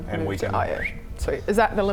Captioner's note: whistles